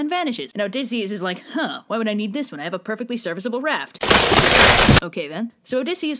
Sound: crunch

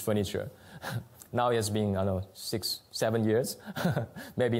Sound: chuckles; laughs

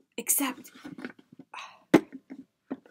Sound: sigh

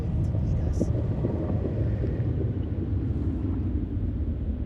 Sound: הרוח נושבת

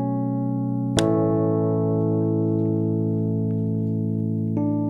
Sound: clapperboard snapping

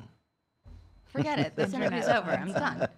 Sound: laughing

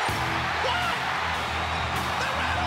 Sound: crowd cheering

